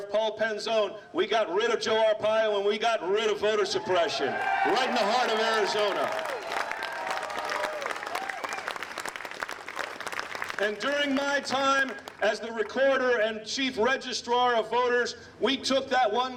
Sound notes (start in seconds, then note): 6.5 applause